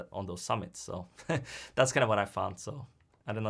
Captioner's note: chuckles